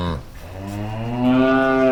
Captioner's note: cows mooing